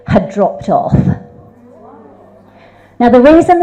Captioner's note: audience expresses shock